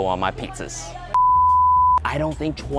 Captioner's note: beeping